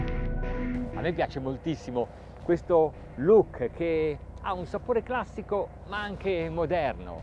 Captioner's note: speaking in foreign language